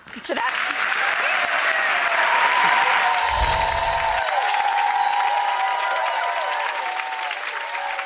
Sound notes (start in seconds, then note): 0.0 applause; 3.3 twinkling in